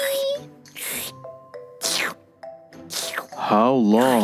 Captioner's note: slurping